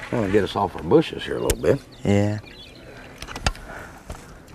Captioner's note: none